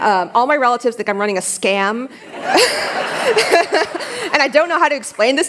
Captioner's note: laughter